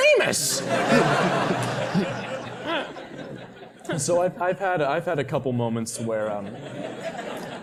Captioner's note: laugh